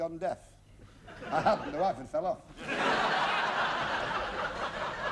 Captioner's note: laughter